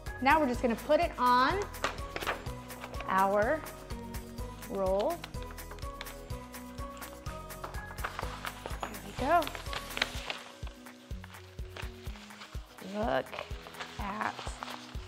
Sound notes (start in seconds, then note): 0.0 upbeat music; 6.8 taping; 8.2 smoothing paper down; 11.8 smoothing paper down